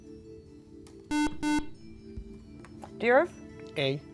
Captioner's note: buzzer